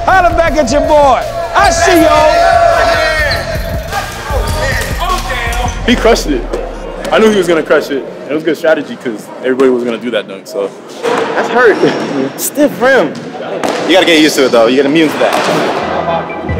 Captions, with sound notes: Holler back at your boy! I see y'all! (indistinct cheering) - He crushed it. I knew he was gonna crush it, and it was a good strategy because everybody was gonna do that dunk, so... - That's hurt. Stiff rim. You gotta get used to it though. You get immune to that.